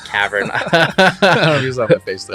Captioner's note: both laughing